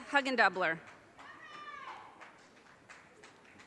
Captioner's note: audience cheers and applause